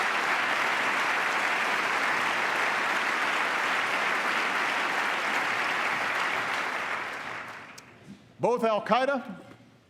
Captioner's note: applause